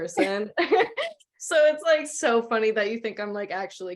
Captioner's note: laughter